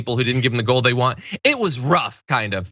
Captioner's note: laugh